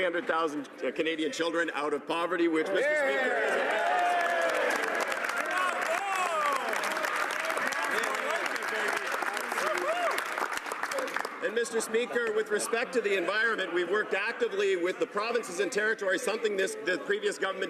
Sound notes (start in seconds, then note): 10.6 cheering/Applause